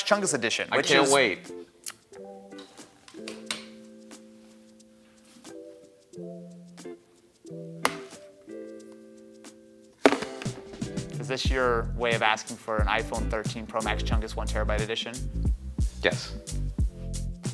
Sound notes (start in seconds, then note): 3.5 soft music; 10.0 phone thuds